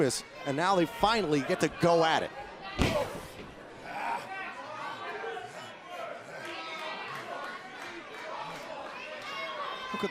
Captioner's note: crowd cheering